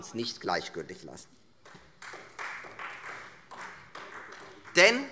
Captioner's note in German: Beifall Freie Demokraten